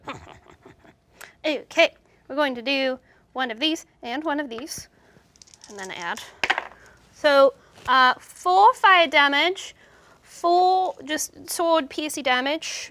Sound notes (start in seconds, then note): 0.0 snickers evily; 5.3 dice roll